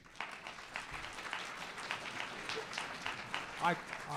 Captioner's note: audience applause